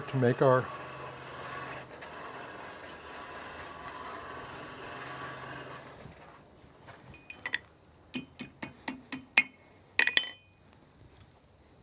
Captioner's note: hammering